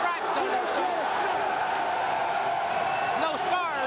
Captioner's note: crowd cheering